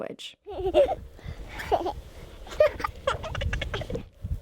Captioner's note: children giggle